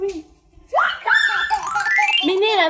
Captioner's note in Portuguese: gritos; efeito sonoro de transição